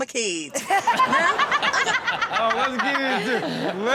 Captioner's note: all laughing